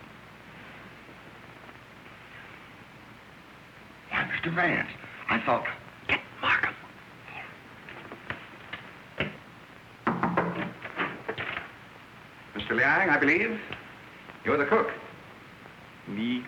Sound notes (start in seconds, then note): 10.0 knocking